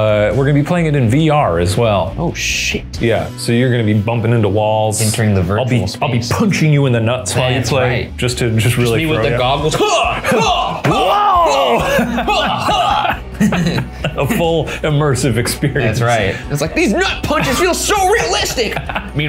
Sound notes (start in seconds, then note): 9.9 groaning; 12.7 laughs; 18.0 laughing